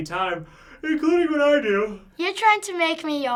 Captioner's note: yawning